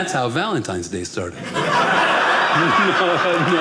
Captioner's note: audience laughing